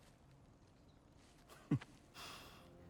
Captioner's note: laugh